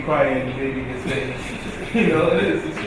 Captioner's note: laughing